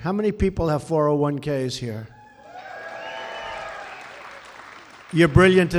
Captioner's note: applause